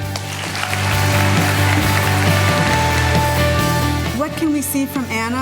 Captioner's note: audience applauding